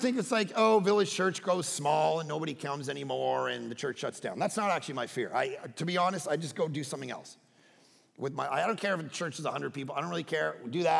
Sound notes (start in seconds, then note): none